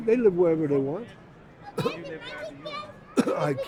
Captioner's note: voiceover